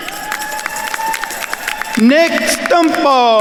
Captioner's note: attendees cheering and applauding